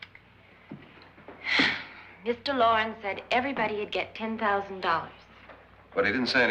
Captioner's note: sighs